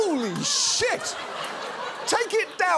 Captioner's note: studio audience laughs